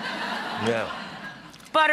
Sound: audience laughs

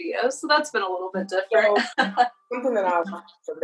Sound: laughing loudly

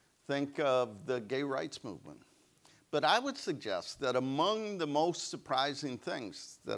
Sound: none

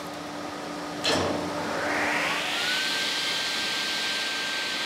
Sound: machine starts, whirring

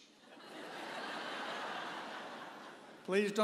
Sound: audience laughing

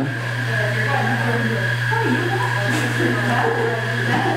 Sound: people talking

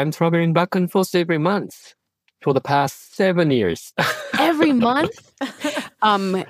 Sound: laughs

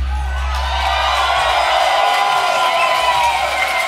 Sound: cheering

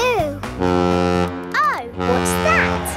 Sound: horn bellowing

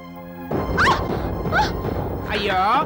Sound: groans

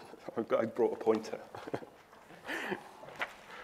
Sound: chuckles

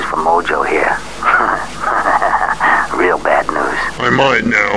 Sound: chuckles evily

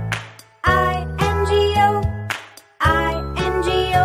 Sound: clap; clap

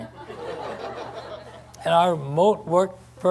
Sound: laughter

